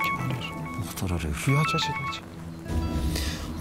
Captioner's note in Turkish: Telefon çalar